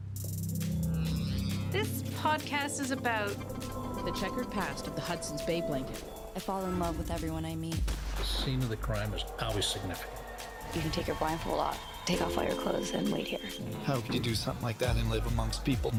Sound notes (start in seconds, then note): 1.7 electronic beat; 8.1 loud gunshot